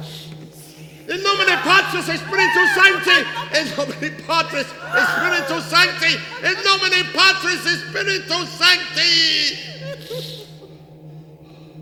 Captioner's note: Van Helsing yells his Latin prayer